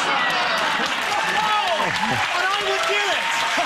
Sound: audience cheers

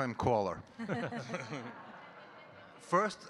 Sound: all giggling

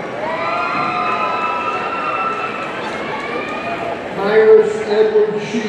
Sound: audience cheering

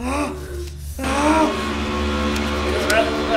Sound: screams

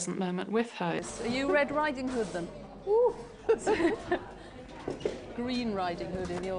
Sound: laughs

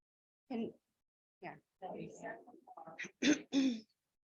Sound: board muttering

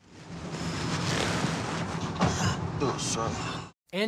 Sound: paper rustles

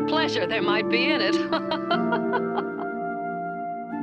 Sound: laughter

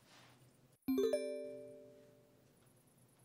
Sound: cell phone alert

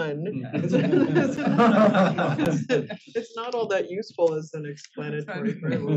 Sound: laugh

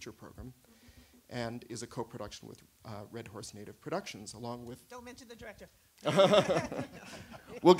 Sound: laughter

